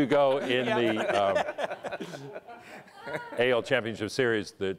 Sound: collective laughter

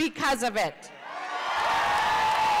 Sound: cheers and Applause

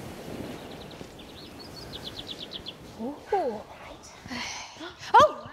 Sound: birdsong

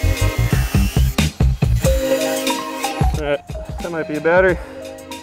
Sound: house music; angle grinding

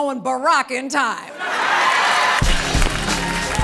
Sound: laughter and applause

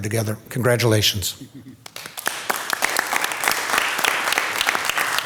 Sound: audience applauding

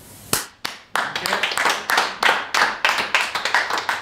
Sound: applause

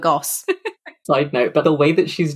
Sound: laughs

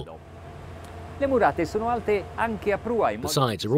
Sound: speaks Italian

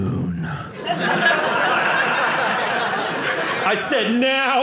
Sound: audience laughing

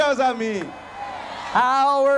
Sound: crowd cheering

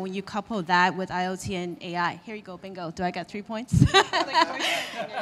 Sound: laughing

